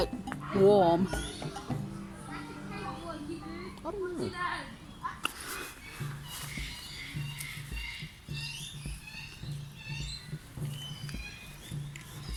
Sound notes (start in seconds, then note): 1.1 birds chirping, people chattering; 5.1 birds chirping, people chattering